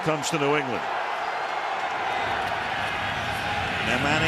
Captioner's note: cheering